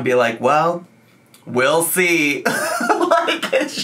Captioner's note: laughs